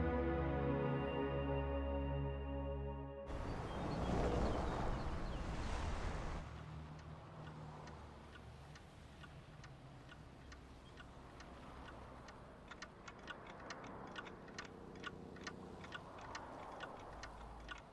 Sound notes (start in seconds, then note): 3.3 birds chirping; 6.7 cat statues ticking